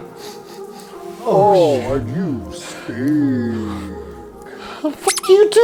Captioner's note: sniff